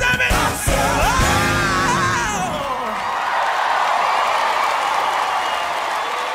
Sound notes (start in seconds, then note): 3.1 cheers and applause